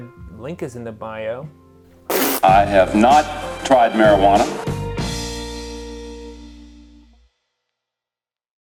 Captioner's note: pffffft